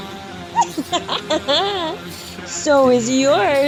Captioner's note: mad Cackling